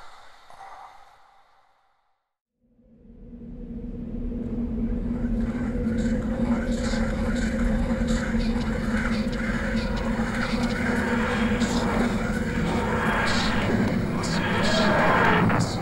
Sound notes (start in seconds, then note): 3.1 winds blowing; 8.5 TARDIS materializing